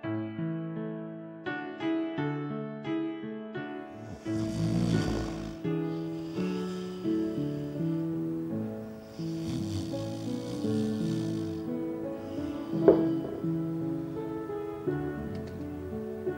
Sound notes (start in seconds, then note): 3.9 man snoring